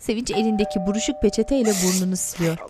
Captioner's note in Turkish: Kapı zil sesi; Ağlama sesi